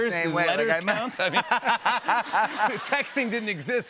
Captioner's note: laughter